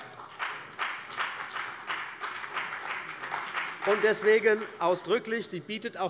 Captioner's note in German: Beifall bei der CDU und dem BÜNDNIS 90/DIE GRÜNEN